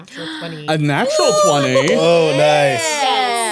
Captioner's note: everyone cheering